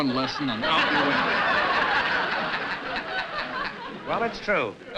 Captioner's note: laughter